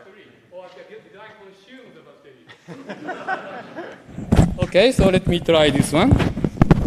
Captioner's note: laughter